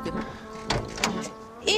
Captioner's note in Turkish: Kapı açılma sesi